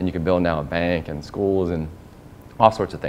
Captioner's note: none